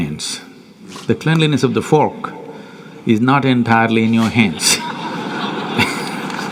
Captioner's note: laughter/Applause